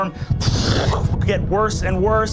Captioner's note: imitates roaring